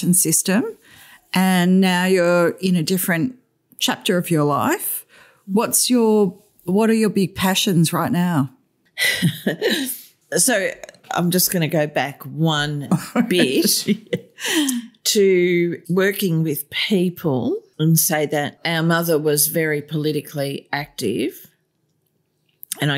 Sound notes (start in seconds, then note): 9.0 laughter